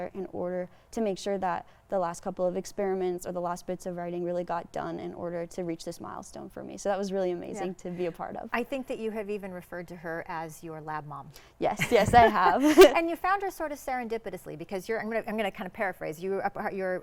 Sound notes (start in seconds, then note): 11.7 laughing